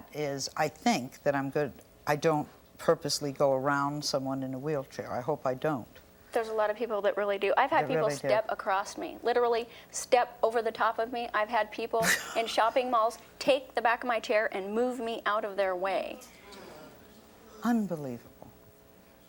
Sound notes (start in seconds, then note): 16.3 audience gasps and groans in disbelief